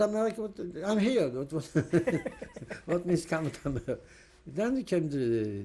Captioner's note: laughs